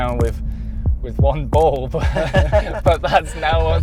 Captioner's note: laughs